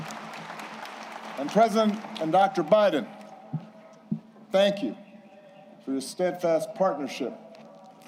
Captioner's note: applause